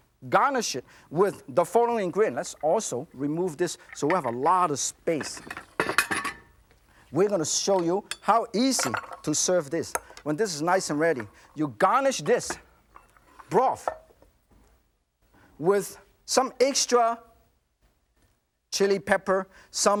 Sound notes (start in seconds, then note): none